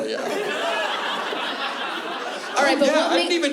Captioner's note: laughter